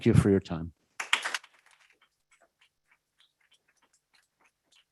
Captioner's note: applause